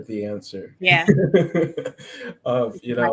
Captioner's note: laughs